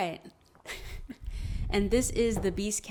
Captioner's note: chuckles